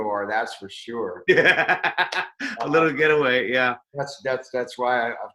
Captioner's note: laughs